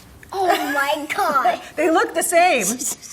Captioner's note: laughs